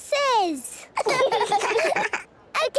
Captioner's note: children laughing